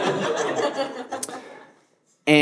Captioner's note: audience laughing